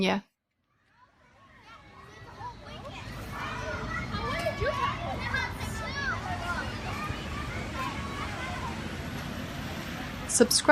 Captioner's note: sounds of a busy neighborhood playground in Queens fade in to background